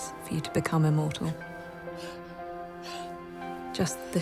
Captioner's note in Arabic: روبن لاهثة